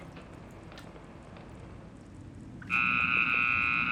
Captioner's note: horn blaring